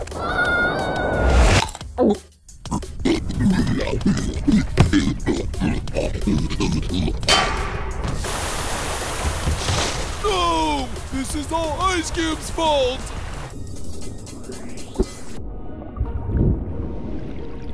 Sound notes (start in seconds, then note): 0.1 screaming; 2.6 choking